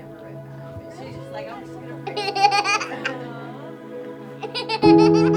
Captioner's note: giggling continues